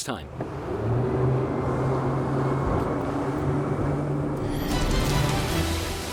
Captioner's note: engine sounds; news music